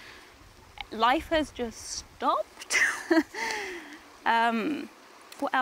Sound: laughs

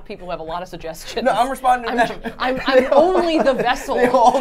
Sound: laughs

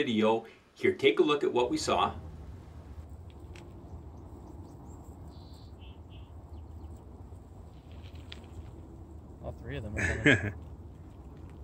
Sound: male voices

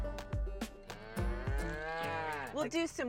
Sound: lowing

